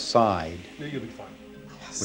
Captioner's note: whispering